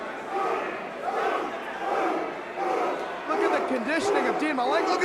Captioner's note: crowd cheering